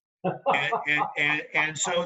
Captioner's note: chuckling